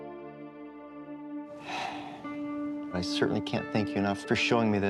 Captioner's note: sighs